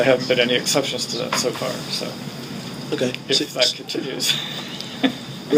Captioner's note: laughing